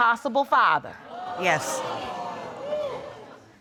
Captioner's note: audience exclaims